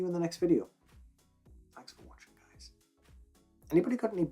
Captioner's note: whispers